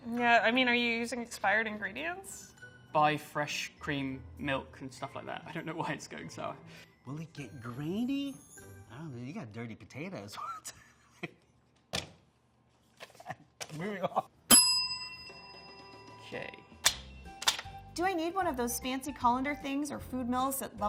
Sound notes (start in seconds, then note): 14.5 bell dings